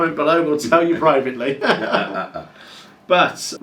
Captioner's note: laughing